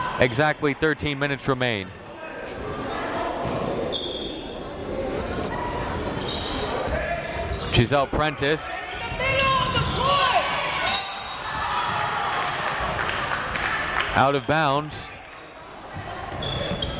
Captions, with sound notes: Exactly 13 minutes remain. (crowd members talking) Gessell Prentice. (crowd members shouting) (whistle tweeting) (crowd clapping) Out of bounds.